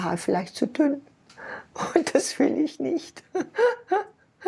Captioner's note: laughing